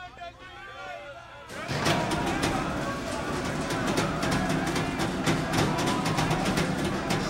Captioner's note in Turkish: Bağırma sesleri